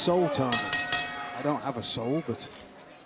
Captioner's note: bell ringing